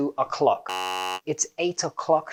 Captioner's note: wrong sound